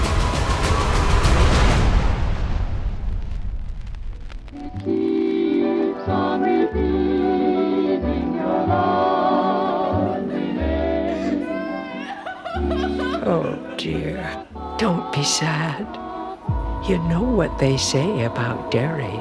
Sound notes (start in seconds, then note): 1.5 music fades; 10.9 sobbing